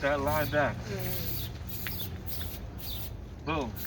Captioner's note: spray whistling